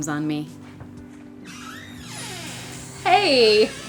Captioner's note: sound of door opening